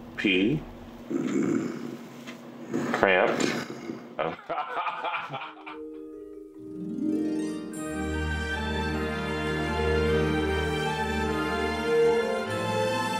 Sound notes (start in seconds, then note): 4.2 laughing; 10.6 light music